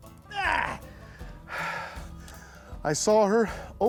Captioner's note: sighs